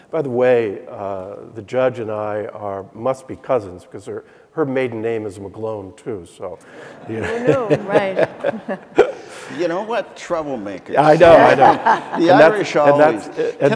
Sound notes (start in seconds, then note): 6.7 audience laughing; 6.7 laughing